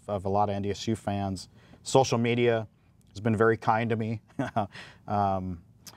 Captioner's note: chuckles